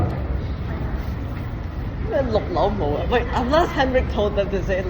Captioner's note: Cantonese